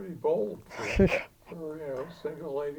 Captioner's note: chuckling